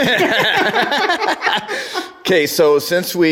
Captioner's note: laughter